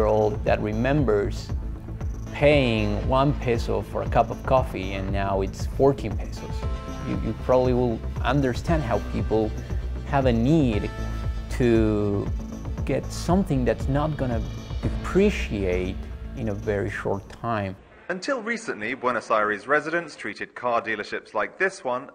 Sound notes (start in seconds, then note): 16.3 man's voice